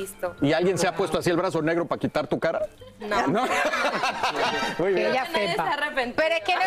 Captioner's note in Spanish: risas